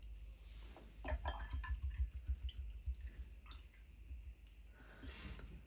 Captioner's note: pouring